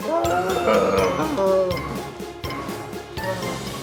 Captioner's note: Longbutt groans